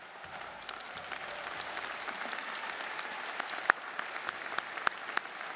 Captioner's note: audience applauding